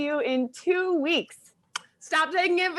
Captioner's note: smooches